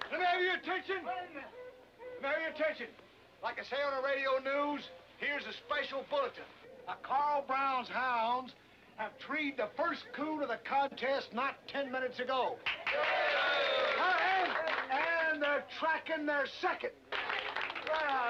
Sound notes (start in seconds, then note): 12.6 clapping and cheering